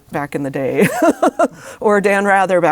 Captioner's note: laughs